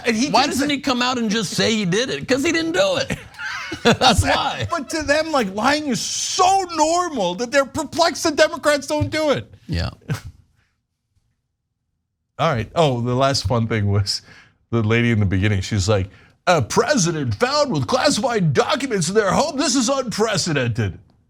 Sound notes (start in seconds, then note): 3.6 laugh